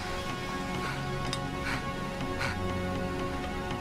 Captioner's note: gasping